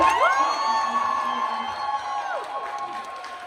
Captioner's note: applause, cheers